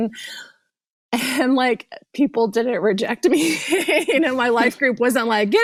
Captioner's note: laughs